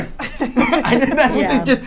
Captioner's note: laughing